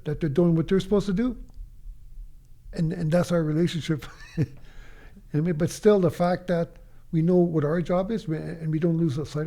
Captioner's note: chuckles